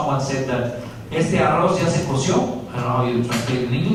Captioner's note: spanish